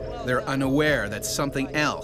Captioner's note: voiceover